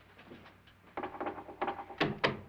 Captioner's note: knocking